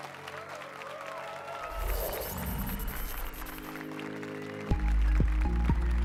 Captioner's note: applause and cheers